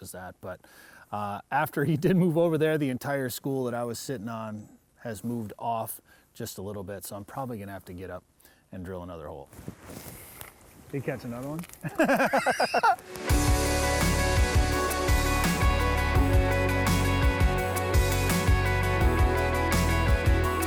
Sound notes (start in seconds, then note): 11.8 chuckles